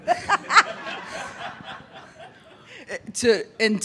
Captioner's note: audience laughing